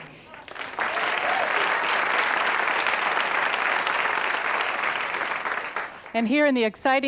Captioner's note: applause